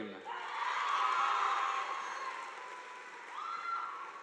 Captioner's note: audience applauding